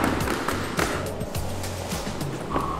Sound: running

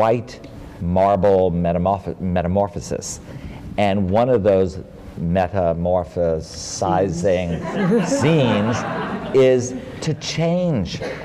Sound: laughter

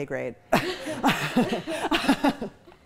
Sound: chuckling

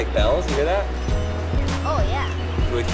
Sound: bells jingling

